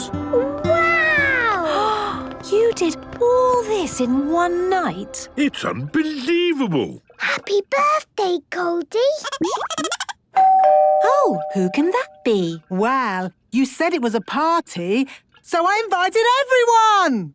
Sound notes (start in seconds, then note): 9.3 Goldie giggling; 10.3 doorbell ringing